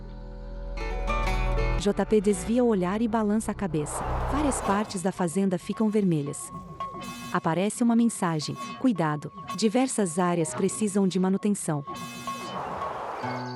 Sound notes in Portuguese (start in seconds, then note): 4.6 Alarme; 11.6 Alarme